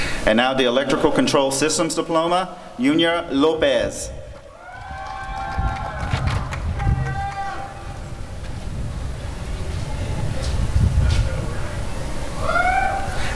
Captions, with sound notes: And now the Electrical Control Systems Diploma— Junior Lopez [applause and cheering]